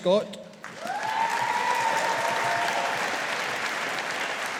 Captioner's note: audience applauding